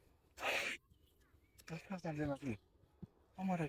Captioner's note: korean conversation